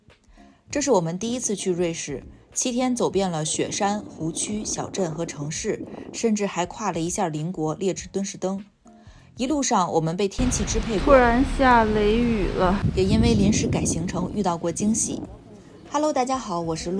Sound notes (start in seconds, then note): 10.4 a sudden thunderstorm